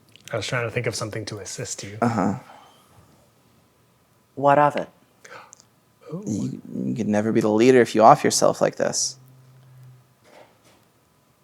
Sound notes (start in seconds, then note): 5.2 gasps